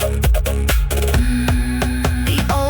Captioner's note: humming